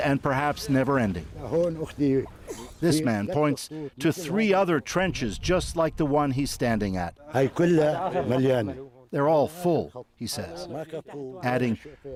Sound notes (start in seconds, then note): 7.0 speaking alternate language